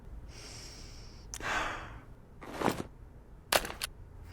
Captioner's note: deep breaths